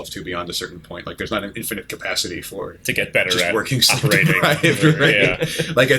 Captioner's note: laughter